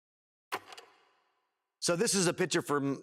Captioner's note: film reel clicks